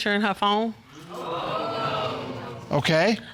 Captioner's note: audience exclaims